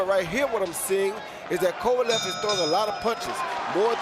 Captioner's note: bell dings; cheers, applause